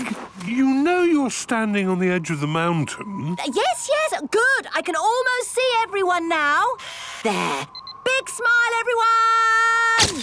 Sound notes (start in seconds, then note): none